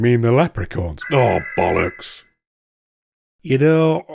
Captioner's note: alarm